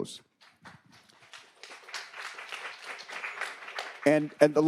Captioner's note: attendees applauding